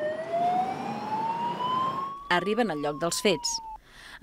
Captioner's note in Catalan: alarma